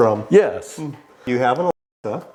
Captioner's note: audio skips